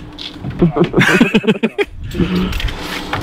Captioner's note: laughs